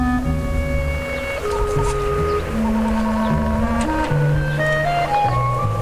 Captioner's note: footsteps thudding; dramatic music